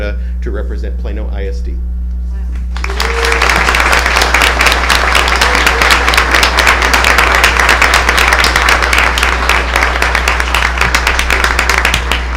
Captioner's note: applause